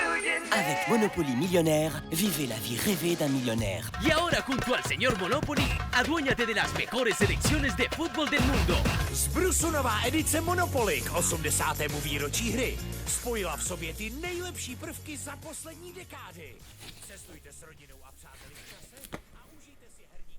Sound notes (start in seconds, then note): 0.1 soundbite of montage; 7.1 singing; 10.9 speaking French; 14.8 speaking Spanish; 18.8 speaking Czech